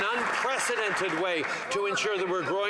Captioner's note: applause